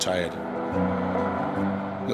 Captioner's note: lighthearted music; wind whooshing; helicopter whirls